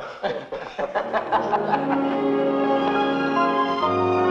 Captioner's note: laughing; bright music